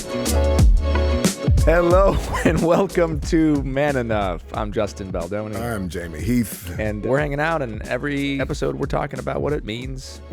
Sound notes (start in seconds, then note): 2.0 laughing